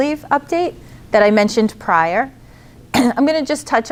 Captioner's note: clears throat